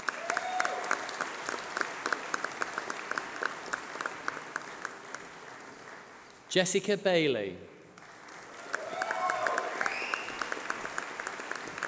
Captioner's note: applause